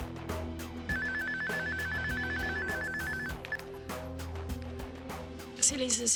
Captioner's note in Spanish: Suena el celular